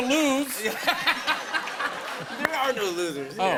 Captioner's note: laughter